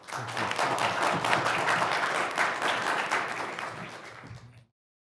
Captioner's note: audience applauding